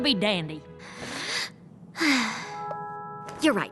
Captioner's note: big sigh